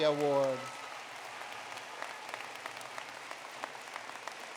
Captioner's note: applause